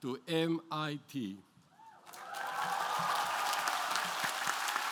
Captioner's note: applause